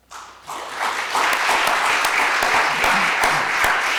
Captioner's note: applause